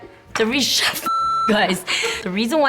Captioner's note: beep